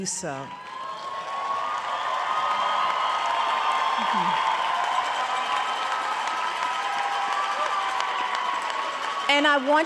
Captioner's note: applause